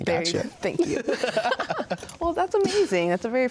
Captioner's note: laughs